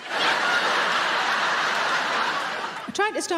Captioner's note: audience laughing